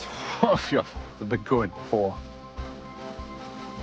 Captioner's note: scoffs